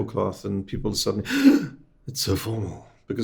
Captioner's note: gasping